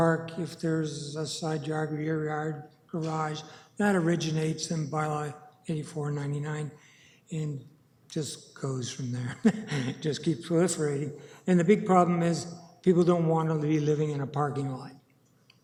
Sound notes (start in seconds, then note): 9.4 laughing